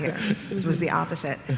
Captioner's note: laughter